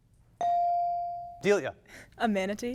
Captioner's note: bell dings